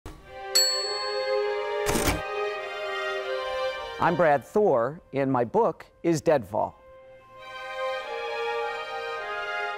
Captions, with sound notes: (typewriter dinging) (typewriter clacking) - I'm Brad Thor, and my book is "Dead Fall." (solemn music)